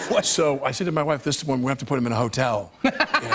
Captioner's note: laughter